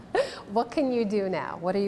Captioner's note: laughter